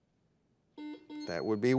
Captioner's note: buzzer dings